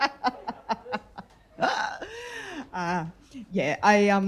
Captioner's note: laughter